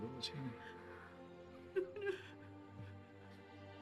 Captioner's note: sobbing